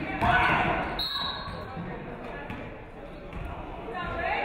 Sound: referee whistles

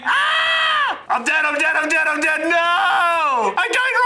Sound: yells

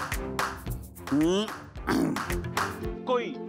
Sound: clearing throat

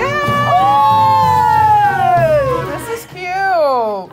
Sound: scream

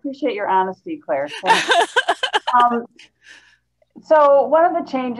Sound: brief laughter

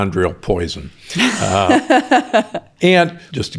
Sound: laughs

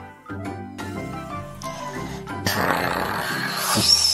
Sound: pressure cooker Whistle; snoring; pressure cooker Whistle

